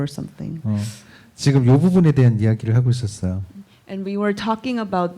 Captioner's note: speaking korean